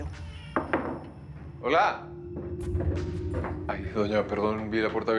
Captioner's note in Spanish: toques en la puerta